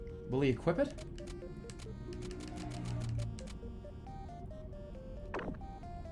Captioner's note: vroomer passes